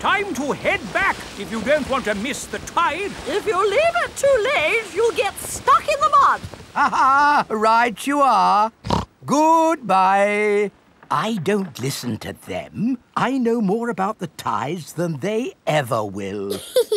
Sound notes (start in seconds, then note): 6.7 laughs; 8.8 snorts; 16.5 giggles